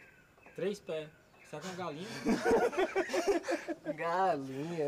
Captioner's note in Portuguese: todos rindo